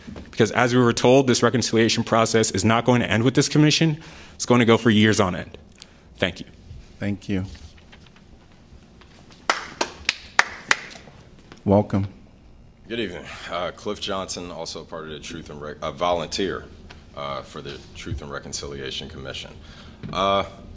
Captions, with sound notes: Because as we were told, this reconciliation process is not going to end with this commission, it's going to go for years on end. Thank you. Thank you. [APPLAUSE] Welcome. Good evening. Cliff Johnson, also a volunteer for the Truth and Reconciliation Commission.